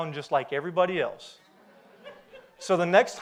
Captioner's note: audience laughs